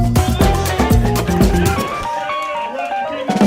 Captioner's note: crowd cheers